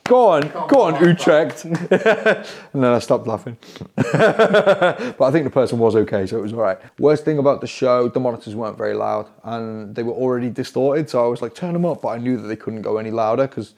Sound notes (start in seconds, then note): 4.0 laughing